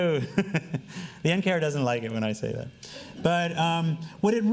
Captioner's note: laughing